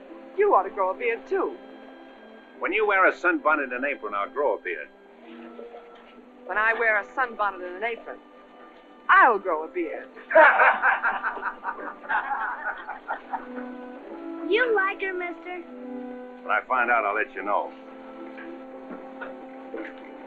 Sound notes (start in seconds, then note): 10.2 men laughing